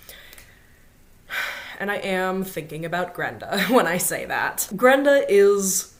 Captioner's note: sighs